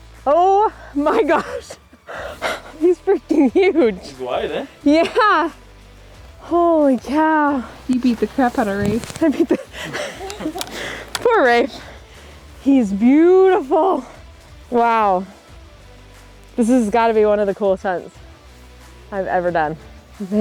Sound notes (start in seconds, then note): 8.6 laughs